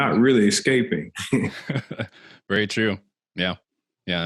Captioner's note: laughs